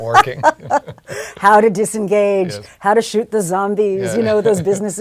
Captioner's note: laugh